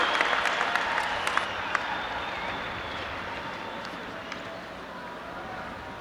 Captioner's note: audience applauding and cheering